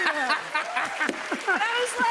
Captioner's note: laughter